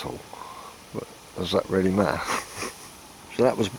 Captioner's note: laughter